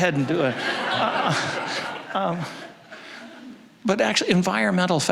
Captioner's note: audience laughing